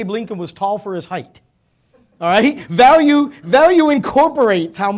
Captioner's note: laughing